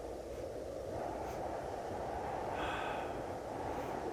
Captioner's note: wind humming